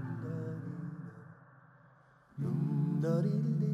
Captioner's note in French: homme chantonnant un reel